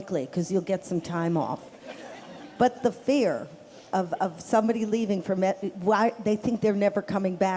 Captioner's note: laughter